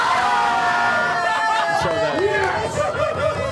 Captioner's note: cheering